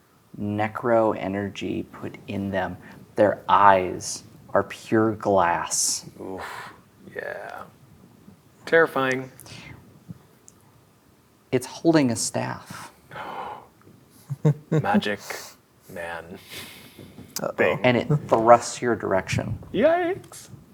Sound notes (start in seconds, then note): 13.1 gasps